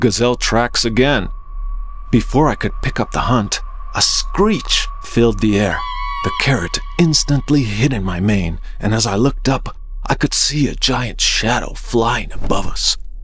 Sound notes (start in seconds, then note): 3.6 eagle screech sound